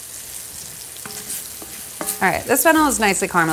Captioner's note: food sizzling